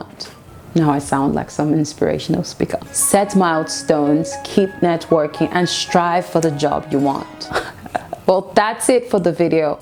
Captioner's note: laughs